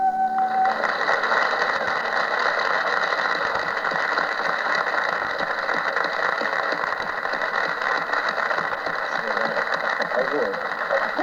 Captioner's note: applause